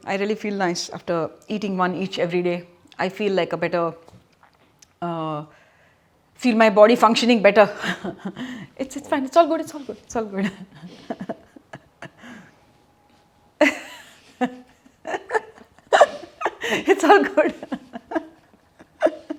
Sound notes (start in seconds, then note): 13.6 laughter